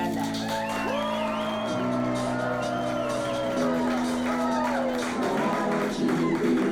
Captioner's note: applause